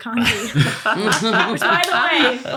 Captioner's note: laughter